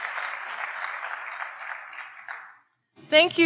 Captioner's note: audience applauding